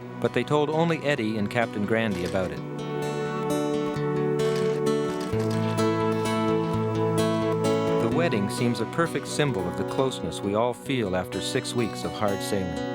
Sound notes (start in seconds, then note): 5.1 camera clicking